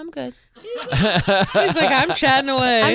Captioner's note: everyone laughing